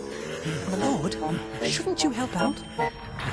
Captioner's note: panting